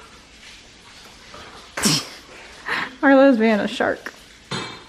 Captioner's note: laughs